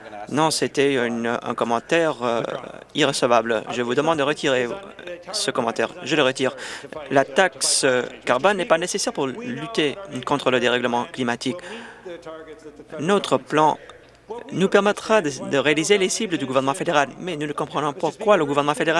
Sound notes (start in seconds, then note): none